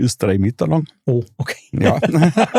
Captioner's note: alle lachen